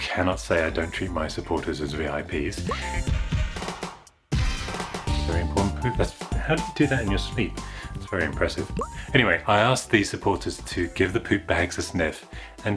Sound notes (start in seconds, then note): 2.6 pop!; 8.7 pop!